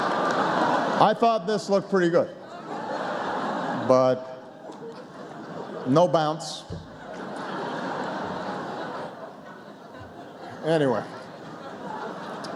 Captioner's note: laughter